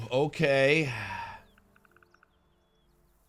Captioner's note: sigh